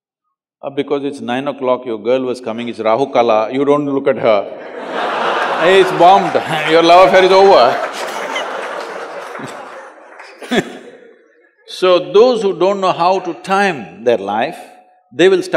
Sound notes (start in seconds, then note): 4.8 laughter; 9.5 laughs